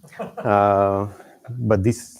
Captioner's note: laughter